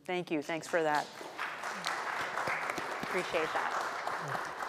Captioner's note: audience applauding